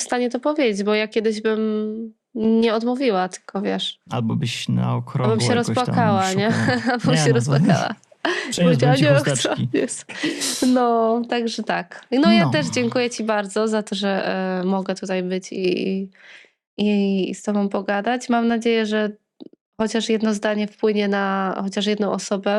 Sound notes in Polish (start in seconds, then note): 6.3 śmiech